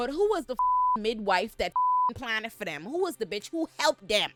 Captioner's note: beep